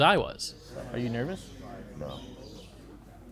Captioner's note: birds chirping